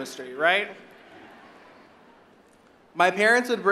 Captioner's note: audience laughing